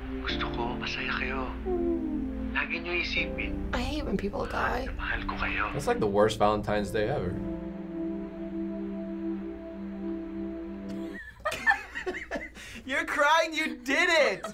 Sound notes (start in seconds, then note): 0.4 dad speaking Filipino; 10.9 laughter